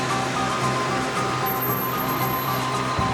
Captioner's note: brakes screaming